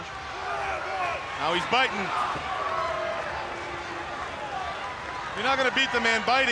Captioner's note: crowd clamoring